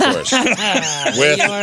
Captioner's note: laughing